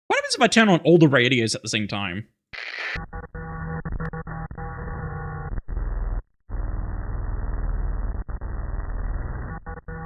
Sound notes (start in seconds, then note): none